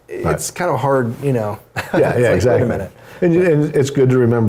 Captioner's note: laugh